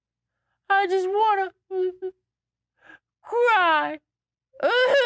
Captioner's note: crying noises